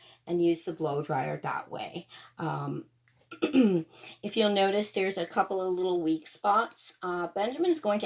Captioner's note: ahem